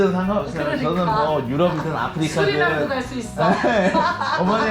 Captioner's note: laughing